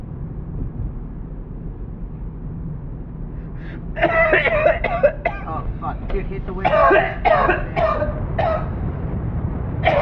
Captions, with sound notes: [INHALES HESITANTLY, COUGHS VERY HARD] -Oh, fuck. -Dude hit the window. [HARD COUGHS CONTINUE, HARD WIND BLOWS]